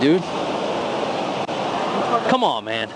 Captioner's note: vehicles roaring